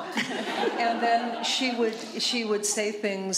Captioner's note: laughter